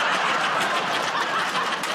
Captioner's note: laughter